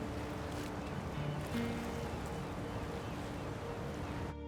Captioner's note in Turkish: Martı sesleri